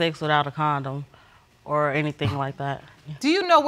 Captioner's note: scoffs